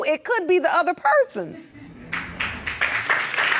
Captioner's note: audience clapping